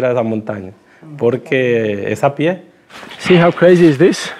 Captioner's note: speaking Spanish